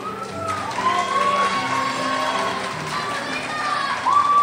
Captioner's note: crowd cheers